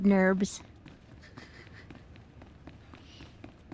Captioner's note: laughing